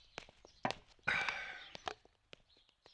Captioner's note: sighs